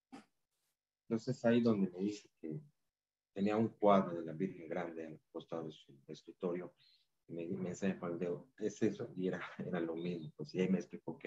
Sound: speaking in spanish

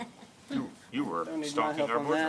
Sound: laughter

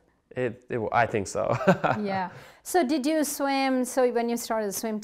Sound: laughs

